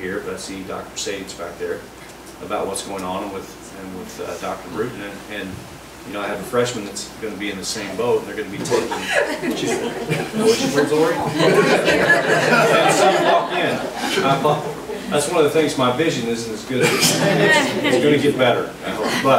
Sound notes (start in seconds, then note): 8.5 group laughs; 12.6 overlapping chattering; 16.9 overlapping chattering